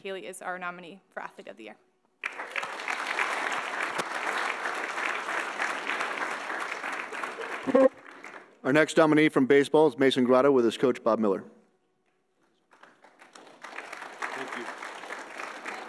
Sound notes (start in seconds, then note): 2.2 audience applauds; 12.6 audience applauds